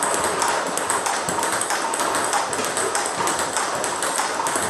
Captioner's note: ball ping pong hitting continues